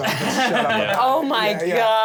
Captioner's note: laughs